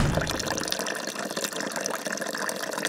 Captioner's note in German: Plätschernde Geräusche